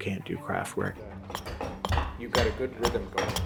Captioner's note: axe thumps